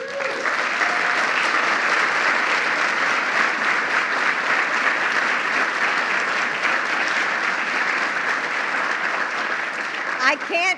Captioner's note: applause